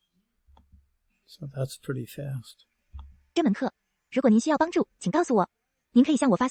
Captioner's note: foreign language